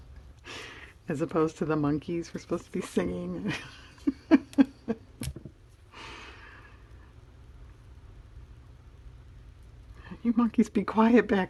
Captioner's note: laughs